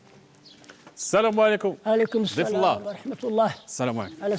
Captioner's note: Arabic spoken audio